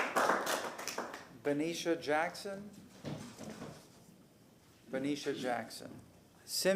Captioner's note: applause